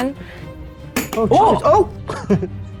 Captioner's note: token clinking